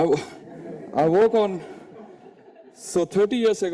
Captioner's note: audience laughing